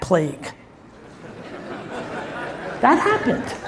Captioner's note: audience laughs